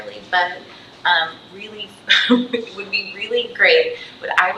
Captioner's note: chuckles